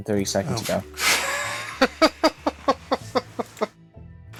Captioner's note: laughter